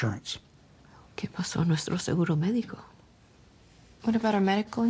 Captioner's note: wife speaking Spanish